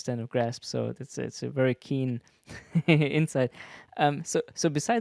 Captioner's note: laughs